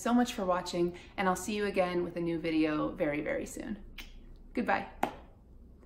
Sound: kisses

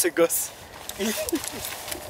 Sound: laugh

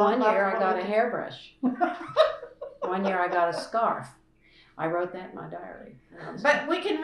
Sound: laughter

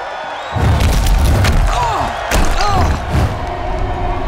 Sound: cheering; groaning

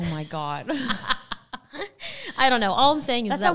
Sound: laughing

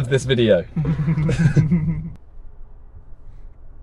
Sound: chuckling

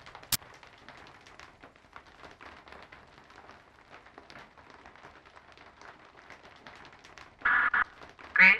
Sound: static crackling; rain pattering; static crackling

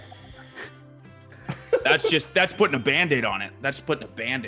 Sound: laugh

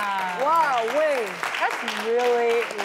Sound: applause

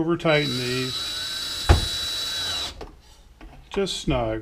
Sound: driver whirring

